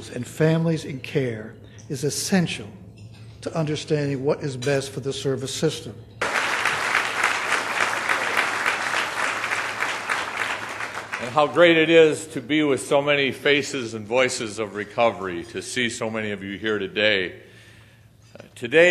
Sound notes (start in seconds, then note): 6.2 applause